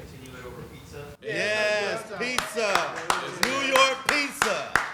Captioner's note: claps